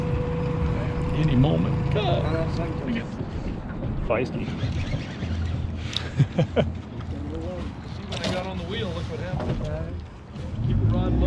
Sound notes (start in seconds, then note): 6.1 reel cranking; 7.3 chuckling